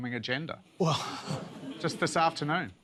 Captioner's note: laughter